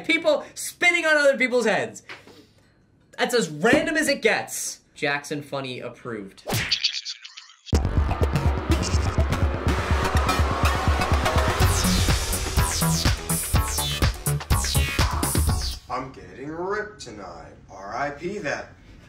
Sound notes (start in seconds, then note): 6.5 splat; 6.7 voice-over; 7.8 upbeat techno intro